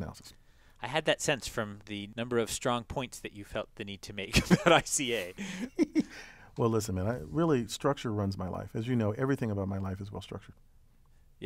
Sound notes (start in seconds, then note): 5.2 laugh